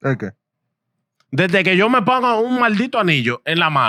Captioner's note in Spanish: Hablando en idioma extranjero